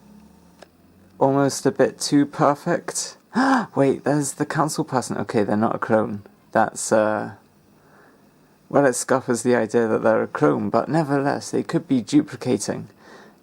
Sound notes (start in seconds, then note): 3.3 gasps